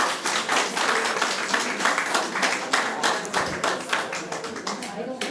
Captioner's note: audience applauding